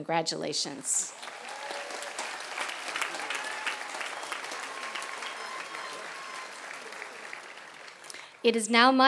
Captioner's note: applause and cheers